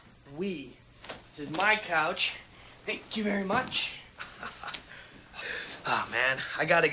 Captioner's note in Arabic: يضحك